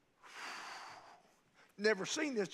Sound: sighing

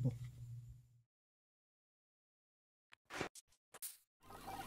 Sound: tape whirring

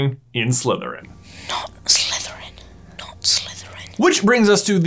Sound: Harry whispering

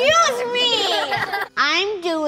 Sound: laughter

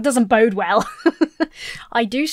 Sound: laughs

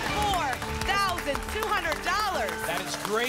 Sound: applause and cheering

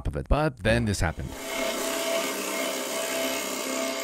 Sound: buzzing

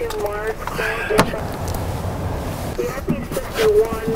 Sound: car door thuds

